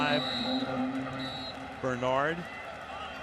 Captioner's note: whistle blows